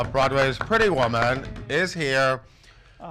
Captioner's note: applause